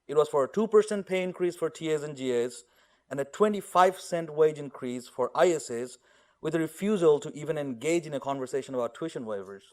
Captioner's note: audio cutting out